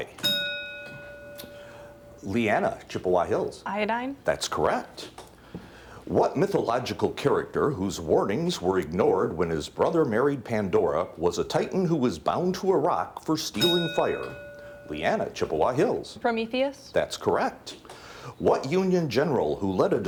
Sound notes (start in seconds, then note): 0.1 bell dings; 13.5 bell dings